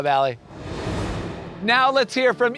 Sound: graphics whooshing

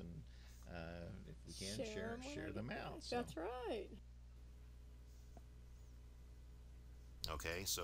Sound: podcast playing

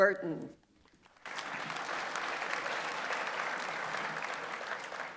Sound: audience applauds

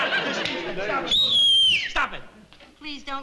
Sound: whistling

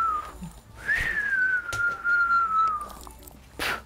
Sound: whistling

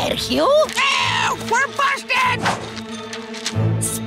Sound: squawking

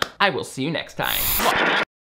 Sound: TV static hissing

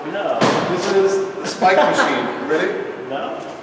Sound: laughs

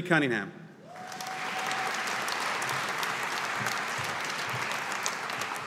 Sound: audience applauding

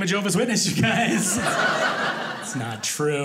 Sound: audience laughing

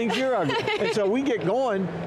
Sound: laughs

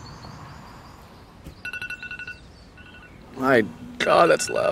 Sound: alarm blaring

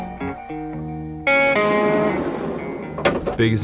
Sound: rhythmic music; van door sliding; door clicking

